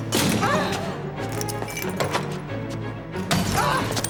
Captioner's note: breaking bottles